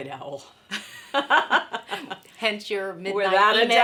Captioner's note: laughing